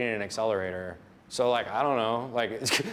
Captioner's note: laughs